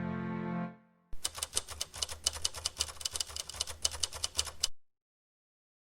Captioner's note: typewriter keys clattering